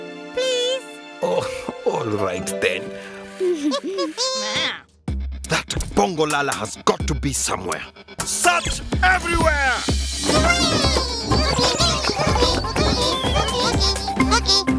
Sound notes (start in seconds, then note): 3.3 Sema and Cookie chuckle